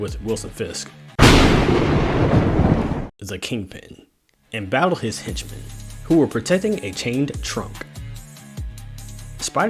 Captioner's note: thunderstrike